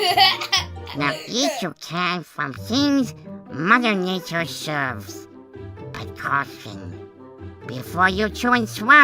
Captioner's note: kids laugh